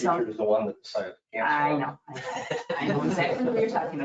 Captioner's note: laughing